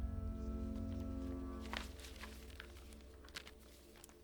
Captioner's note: paper rustles